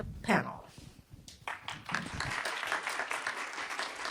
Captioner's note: clapping